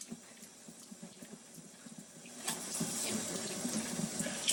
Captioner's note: mixer whirring